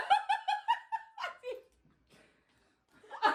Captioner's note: they laugh